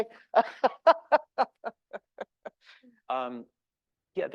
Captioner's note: laughing